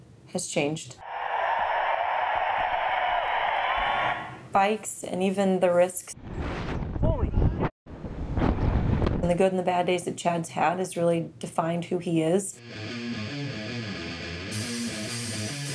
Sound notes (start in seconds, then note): 2.8 crowd cheering; 12.6 fast rock music